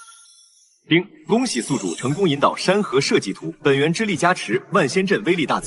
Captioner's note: ding!